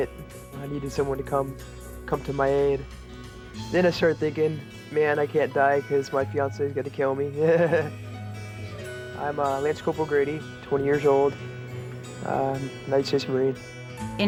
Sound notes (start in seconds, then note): 7.3 laughs